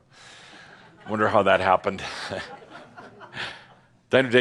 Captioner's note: a few chuckles